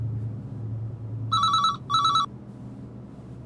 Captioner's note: phone ringing